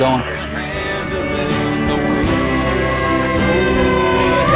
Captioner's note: fire truck siren blares